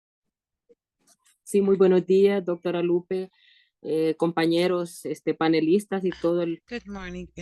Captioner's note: talking in a foreign language